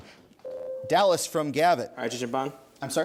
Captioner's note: ding